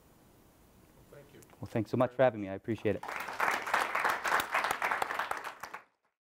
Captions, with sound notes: - [Voiceover] Thank you. - Well, thanks so much for having me. I appreciate it. (audience applauds)